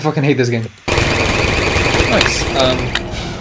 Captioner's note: turrets failing